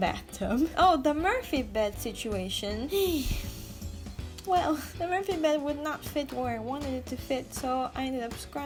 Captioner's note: sigh